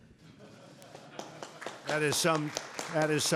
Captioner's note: applause